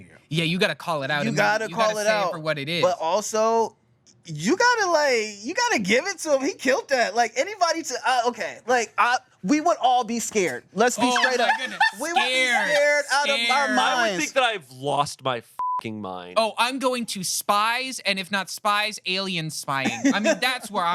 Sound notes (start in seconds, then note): 15.6 beep